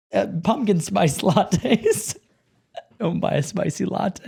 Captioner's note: laughs